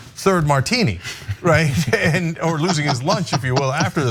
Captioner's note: laugh